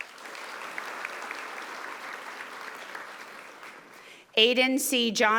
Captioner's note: audience applauding